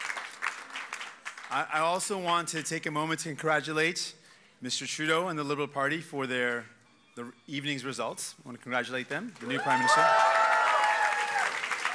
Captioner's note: applause